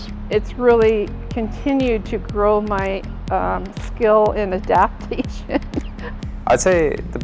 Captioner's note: laughs